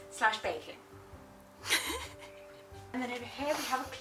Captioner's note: laughter